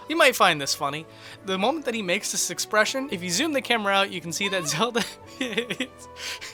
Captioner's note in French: rires